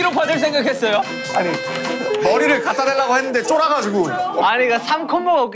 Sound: crying

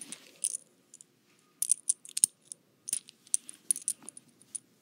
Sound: coins clattering

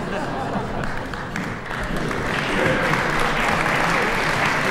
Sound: audience laughing

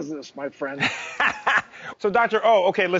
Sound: laughing

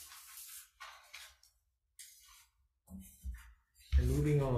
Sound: papers rustling

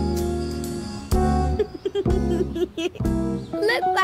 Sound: laughs

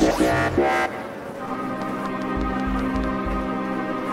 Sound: flies buzzing

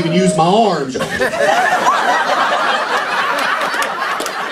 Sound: laughter

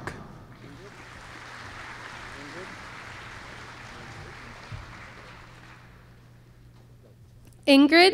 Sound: applause

